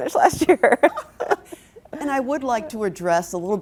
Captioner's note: both laugh